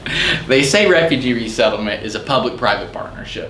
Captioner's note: laughs